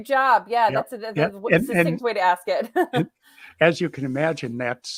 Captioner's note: laughs